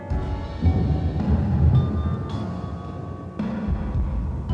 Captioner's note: thunder rumbles